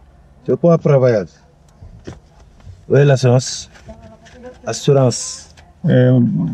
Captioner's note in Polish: rozmowa w j. francuskim